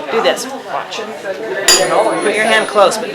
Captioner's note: tuning fork hits